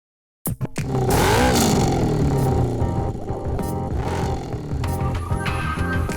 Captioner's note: upbeat music; engine revving